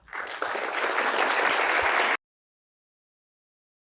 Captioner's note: audience applauding